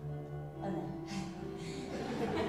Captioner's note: laughs nervously